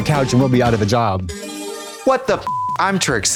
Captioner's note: bright chime; beep